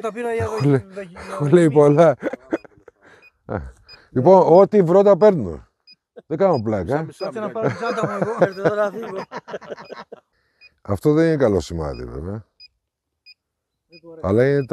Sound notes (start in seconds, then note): 9.9 laughs